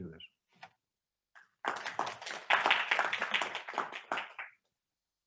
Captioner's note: audience clapping